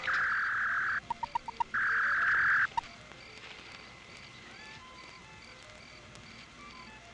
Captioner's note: beeping; whirring